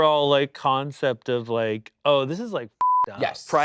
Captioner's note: beep